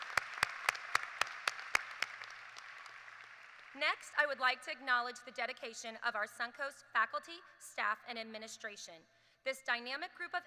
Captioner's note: applause